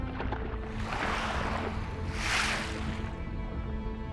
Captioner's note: whooshing